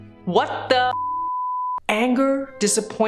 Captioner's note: beep